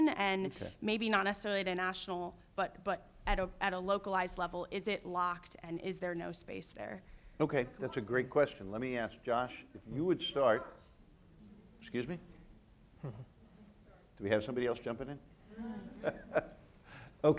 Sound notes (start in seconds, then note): 11.0 man shouts; 15.5 chuckles